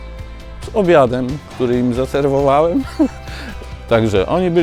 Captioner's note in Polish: śmiech